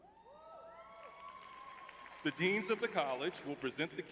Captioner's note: cheering